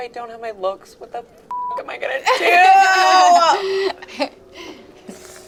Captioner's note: beep